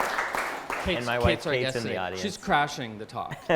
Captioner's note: applause; chuckling